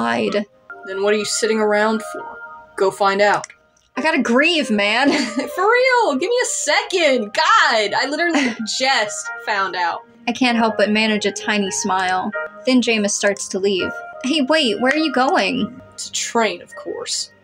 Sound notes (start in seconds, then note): 5.2 laugh; 8.3 chuckle